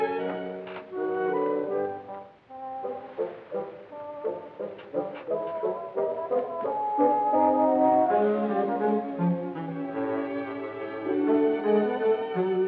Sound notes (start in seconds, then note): none